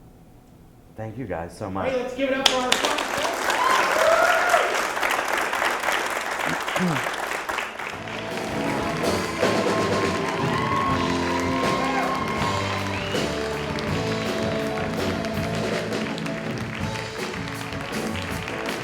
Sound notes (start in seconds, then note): 3.5 applause; 13.0 applause